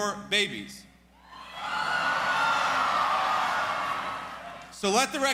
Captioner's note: cheers